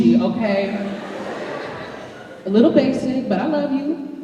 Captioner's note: laughter